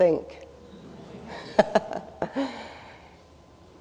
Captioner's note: laughs